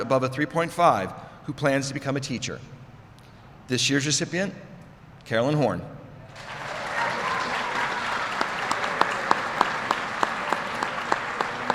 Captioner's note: applause